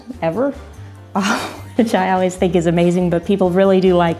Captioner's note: laughs